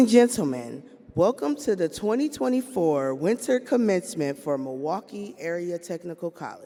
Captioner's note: none